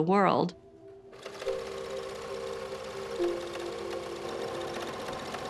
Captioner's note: sewing machine whirring